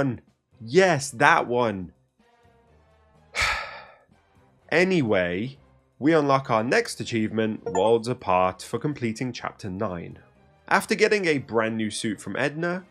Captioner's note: sigh